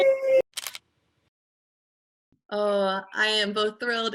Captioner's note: camera clicking